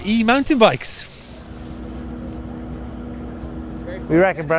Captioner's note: motor humming